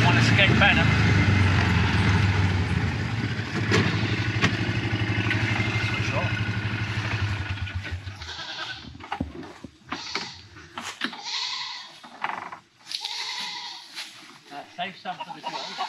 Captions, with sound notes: One escaped bantam! Switch off. (goats bleating) Save some for the girls.